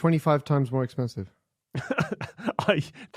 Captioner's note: chuckles